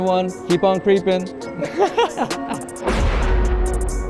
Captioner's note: laughing; dramatic music